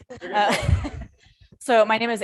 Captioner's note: person laughing